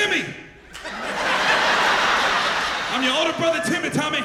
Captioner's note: laughter